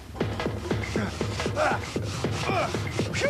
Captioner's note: grunting